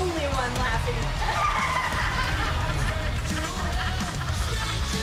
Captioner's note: laughs